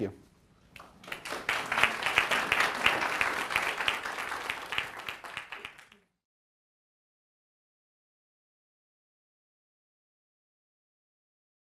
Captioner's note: audience applause